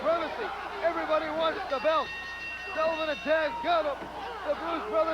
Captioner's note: bell ringing